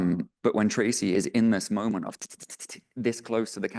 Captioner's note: clicking tongue